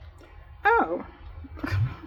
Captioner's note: laughs